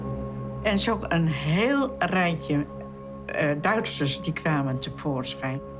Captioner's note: speaking foreign language